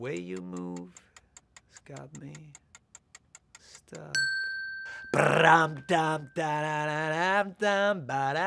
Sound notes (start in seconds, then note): 4.3 timer dings; 4.9 humming